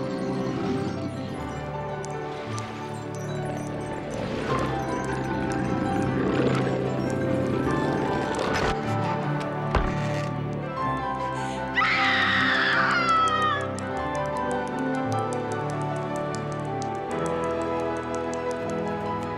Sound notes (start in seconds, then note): 3.8 growling; 11.7 screams